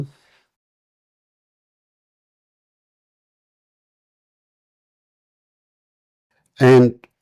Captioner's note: silence